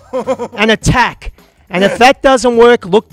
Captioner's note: laughs